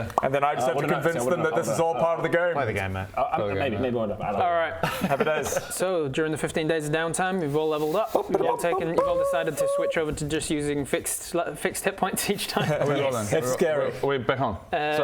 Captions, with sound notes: - and then I just have to convince them this is all part of the game - I wouldn't know Play the game mate I...maybe...maybe one day Alright, Happy days so during the 15 days of downtime you've all levelled up - you've all taken - *chicken fanfare* you've all decided to switch over to just using fixed hit points each time - Are we rolling? Are we back on? - Yes, it's scary